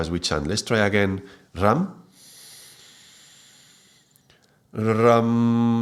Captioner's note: inhale